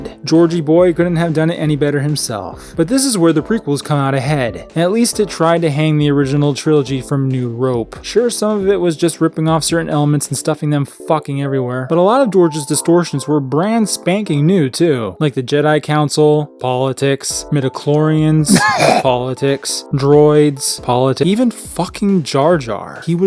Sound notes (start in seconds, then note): 18.4 man vomits